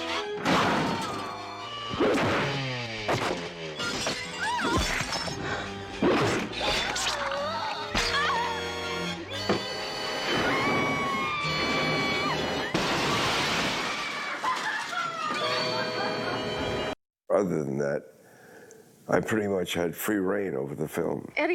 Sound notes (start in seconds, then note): 7.0 gasps; 10.3 screaming; 13.8 screaming